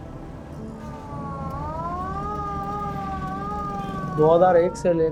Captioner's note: ambulance siren